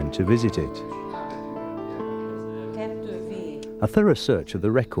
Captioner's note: people chattering in foreign language